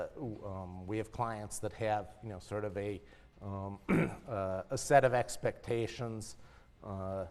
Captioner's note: cough